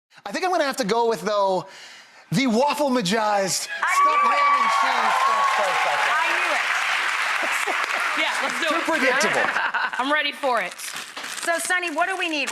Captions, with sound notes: I think I'm going to have to go with, though, the Waffle-Magized Stuffed Ham and Cheese French Toast. (audience applause) I knew it! Yeah, let's do it. Too predictable. I'm ready for it. So, Sunny, what do we need,